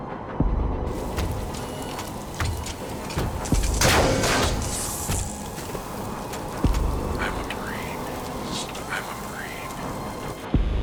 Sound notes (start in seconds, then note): 2.2 robot whirring; 3.6 electricity zapping